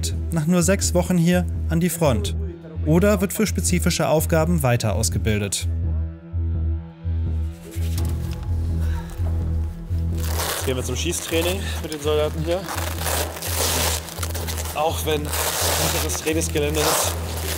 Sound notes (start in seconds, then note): 7.9 gloomy music; 12.8 zipper sounds